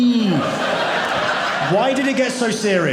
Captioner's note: audience laughing